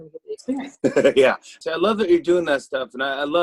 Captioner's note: laughs